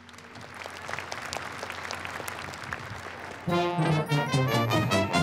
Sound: applause

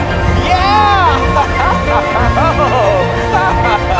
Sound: laughs

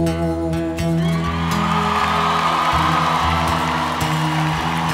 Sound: cheers

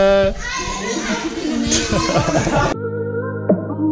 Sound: laughing

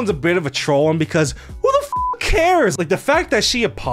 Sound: beep

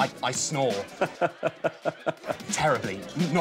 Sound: laughs

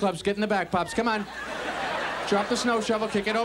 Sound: audience laughs

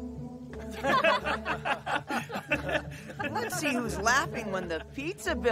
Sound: laughing

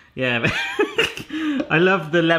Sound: laughs

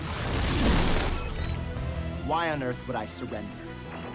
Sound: communicator beeps

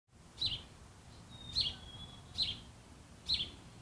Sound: birds chirping

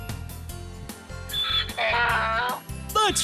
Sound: sound of a donkey

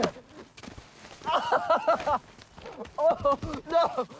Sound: boys laugh

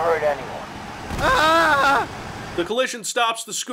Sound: screaming

